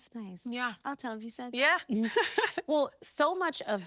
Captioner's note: laughing